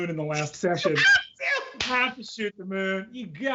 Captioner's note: laughs